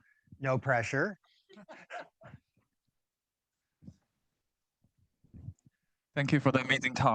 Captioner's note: both laughing